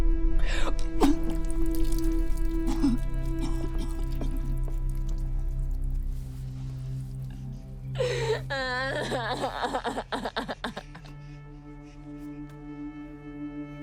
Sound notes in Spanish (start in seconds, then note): 7.0 sollozos